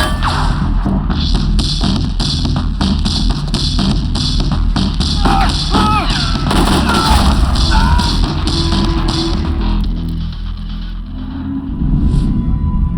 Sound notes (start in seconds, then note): 6.9 screams